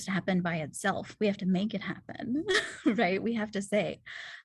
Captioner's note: laughter